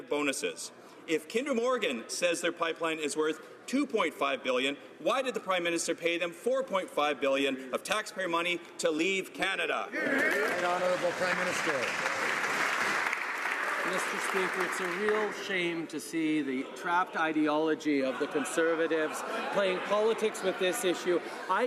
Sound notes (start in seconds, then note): 13.9 some Applause